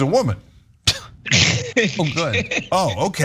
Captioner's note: laugh